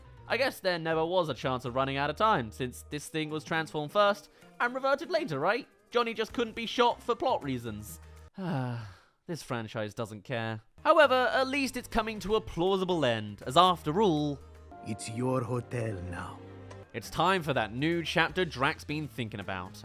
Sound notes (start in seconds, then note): 8.3 sigh